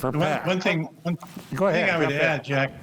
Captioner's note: pat